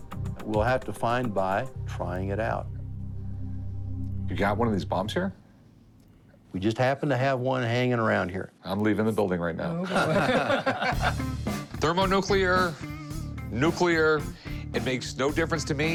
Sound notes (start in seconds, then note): 9.8 laughter